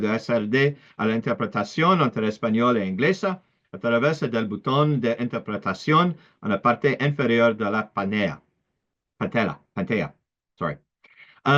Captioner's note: Spanish